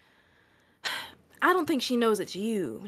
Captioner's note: sighs